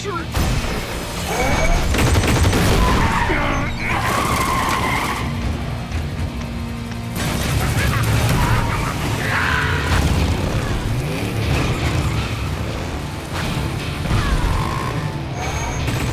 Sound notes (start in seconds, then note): 3.0 grunting